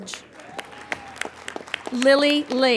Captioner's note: applauding